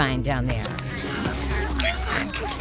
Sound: snorting

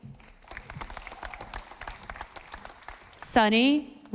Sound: audience applauding

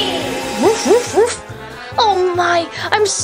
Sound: Liberty barking

